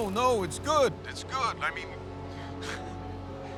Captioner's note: laughs